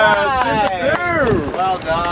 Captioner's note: clapping